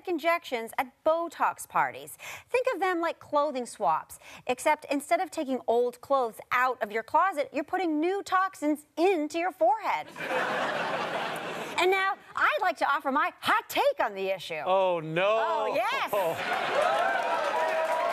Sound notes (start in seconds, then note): 10.1 audience laughter